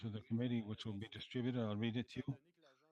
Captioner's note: speaking French